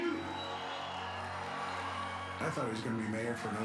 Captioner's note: audience cheers